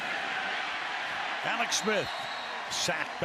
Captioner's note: cheering